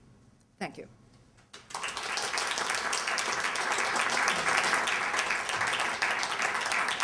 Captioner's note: applause